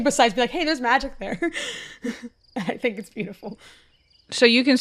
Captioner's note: chuckles